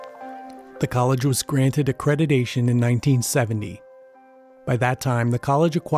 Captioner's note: voiceover